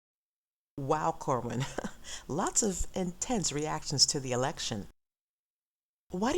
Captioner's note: uncomfortable laugh